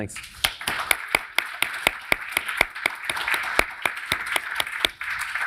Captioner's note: audience applauding